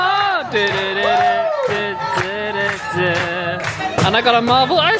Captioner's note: crowd clapping; vocalising